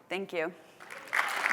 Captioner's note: applause